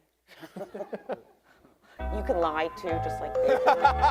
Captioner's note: everyone laughing